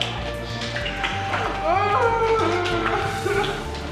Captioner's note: moaning